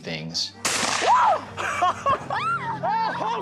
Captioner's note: gun fires; screams; laughing